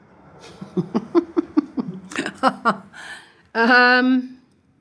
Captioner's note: laughs